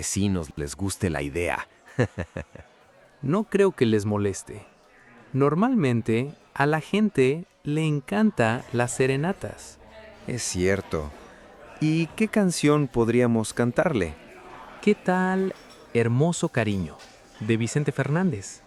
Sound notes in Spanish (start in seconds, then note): 1.8 risas